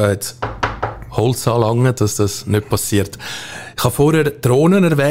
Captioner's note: knocking